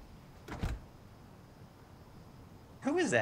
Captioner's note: door shuts